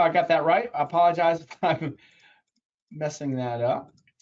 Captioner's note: laughs